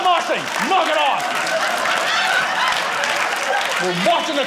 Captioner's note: audience laughing